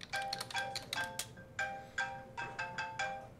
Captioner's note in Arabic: رنين الهاتف